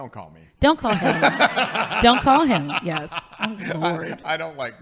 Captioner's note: laughing